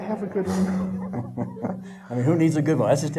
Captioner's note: laughing